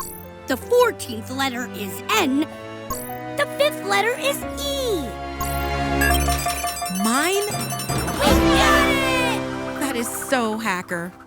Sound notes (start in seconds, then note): 6.0 box beeps